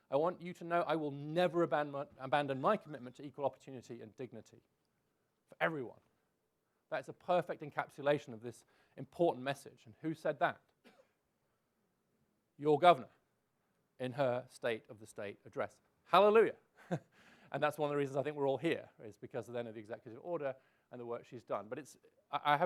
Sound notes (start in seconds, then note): 16.8 laughs